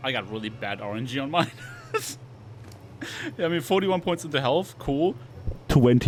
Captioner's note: laughs